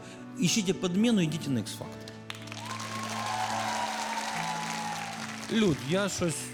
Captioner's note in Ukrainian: оплески